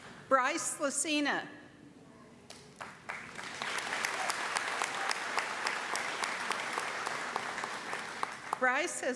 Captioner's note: applause